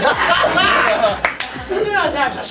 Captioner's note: laughs